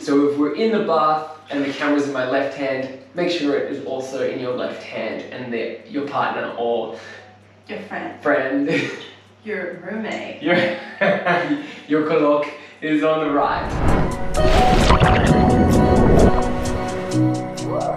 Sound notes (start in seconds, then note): 10.5 laughs; 13.4 ambient music